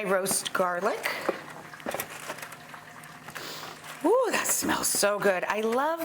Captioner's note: inhales deeply